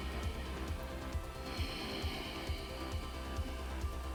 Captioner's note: inhaling and exhaling